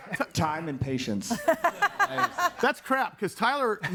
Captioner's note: audience laughing